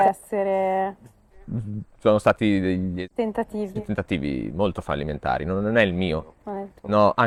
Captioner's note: laughs